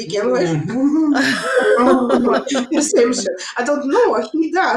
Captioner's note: all laughing